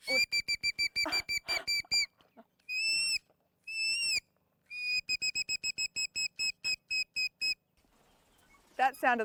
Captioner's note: bird song